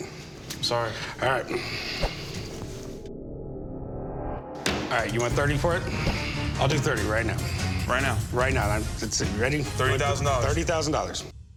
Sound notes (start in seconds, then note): 4.3 banging on glass